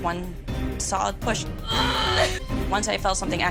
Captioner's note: groaning